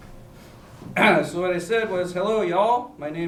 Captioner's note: clears throat